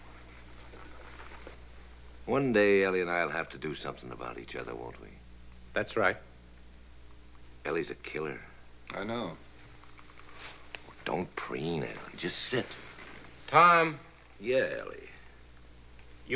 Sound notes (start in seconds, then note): none